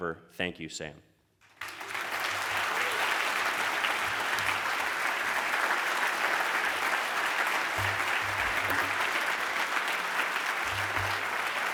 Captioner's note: applause